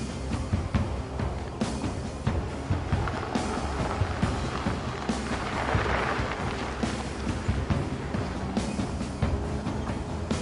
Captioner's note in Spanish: Ruido de motor